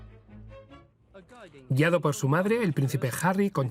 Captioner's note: engergetic music; voiceover